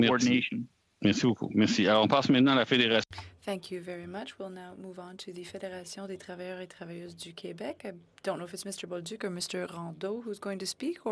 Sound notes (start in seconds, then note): 7.5 speaking French